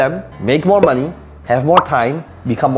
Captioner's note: bubble popping